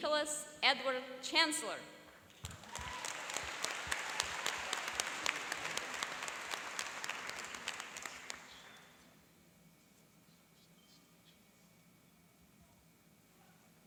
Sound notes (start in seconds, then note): 2.4 applauding and cheering